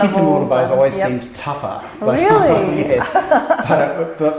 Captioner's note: laugh